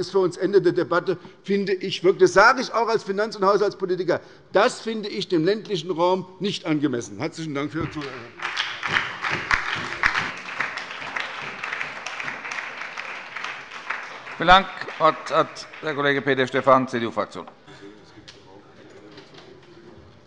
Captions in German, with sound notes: das finde ich - das sage ich auch als Haushalts- und Finanzpolitiker - für den ländlichen Raum nicht für angemessen. - Herzlichen Dank. (Beifall bei der SPD und der LINKEN) Vielen Dank. - Das Wort hat Peter Stephan CDU-Fraktion.